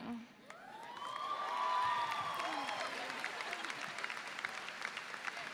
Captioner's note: audience cheers